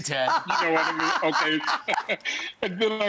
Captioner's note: laughing